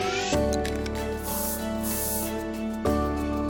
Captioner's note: spray can hissing